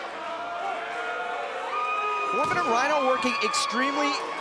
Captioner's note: crowd cheering